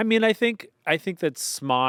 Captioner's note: none